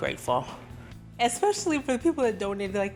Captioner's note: voice breaking